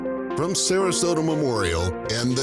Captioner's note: bright instrumental music; voiceover